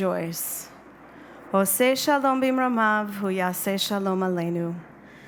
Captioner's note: speaking in a foreign language